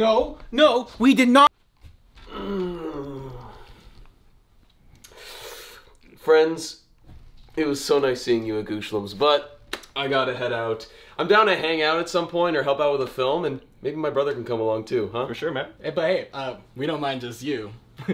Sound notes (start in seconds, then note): 2.2 Bethan moans